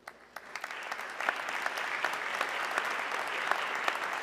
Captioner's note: audience clapping